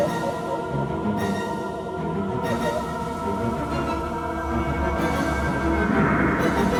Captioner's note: dramatic music continues; crying; Nancy crying; dramatic music continues